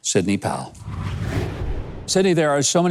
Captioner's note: wind whooshing